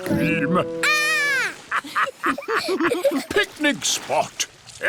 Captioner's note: laughter